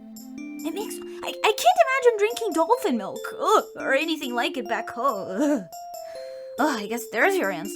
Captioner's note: shudder